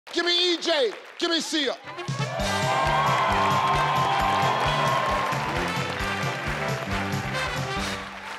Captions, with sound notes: - Give me EJ. Give me Siya. (audience cheering)